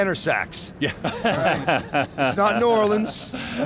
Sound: laughs

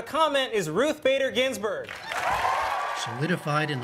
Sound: cheering and applause

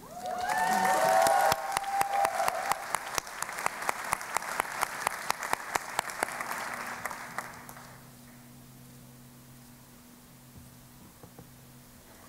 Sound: cheering and Applause

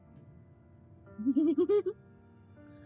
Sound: giggles

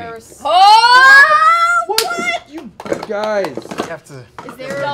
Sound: cheering

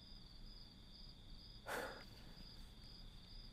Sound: exhales

